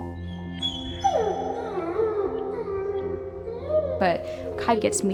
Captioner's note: Kai whining